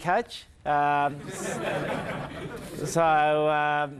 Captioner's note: crowd laughing